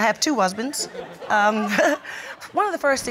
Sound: chuckles

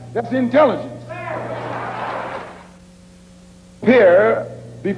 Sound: cheering

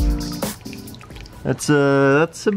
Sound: water splashing

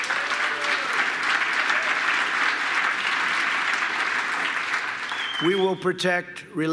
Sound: applause

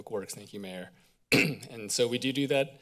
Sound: clears throat

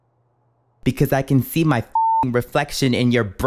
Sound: beep

